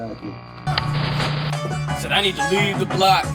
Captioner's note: static buzzes